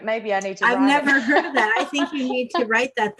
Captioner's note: laughter